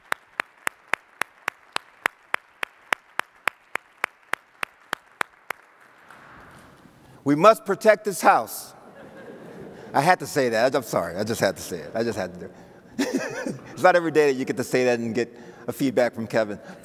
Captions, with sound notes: We must protect this house. (audience laughs) I had to say that. I'm sorry, I just had to say it. I just had to. (chuckles) It's not everyday that you get to say that and get a feedback from Kevin.